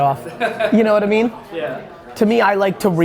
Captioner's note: laughing